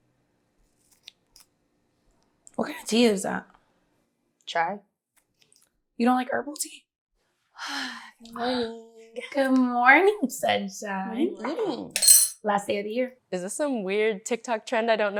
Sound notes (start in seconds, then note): 7.6 Georgia sighs